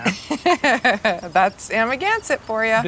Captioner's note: Gwyneth chuckling